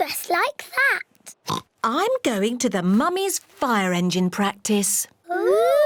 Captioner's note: oinks